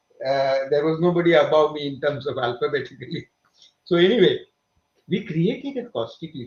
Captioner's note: both laugh